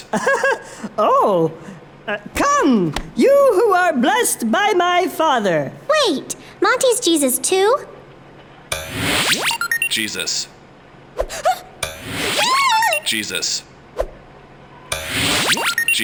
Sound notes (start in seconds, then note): 0.0 laughs; 8.8 electronic noises; 11.3 gasps; 12.1 electronic noises; 15.0 electronic noises